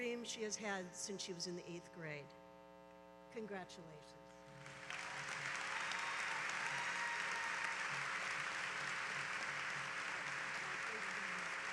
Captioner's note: applause